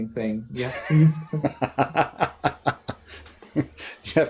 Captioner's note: laughter